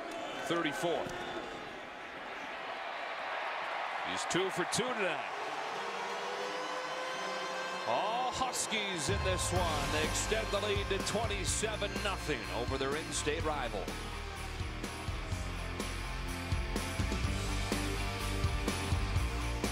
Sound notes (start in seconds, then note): 6.1 siren